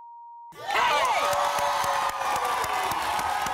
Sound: cheers; beeps

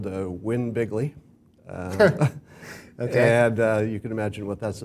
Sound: laugh

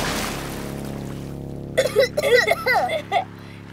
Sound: coughing

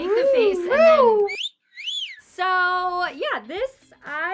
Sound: wolf-whistling

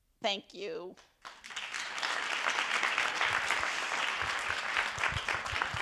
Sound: attendees applauding

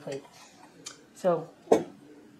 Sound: thunk

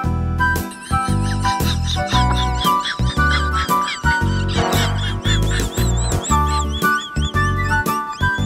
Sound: laughter

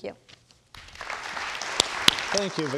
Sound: audience applauds

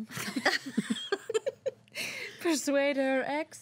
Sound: girls laughing

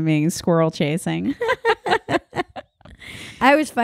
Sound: laughing

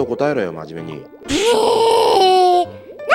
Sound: disgruntled Siro noises

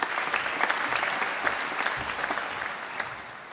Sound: applause

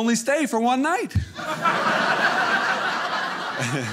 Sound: audience laughing

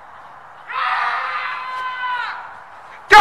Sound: screaming

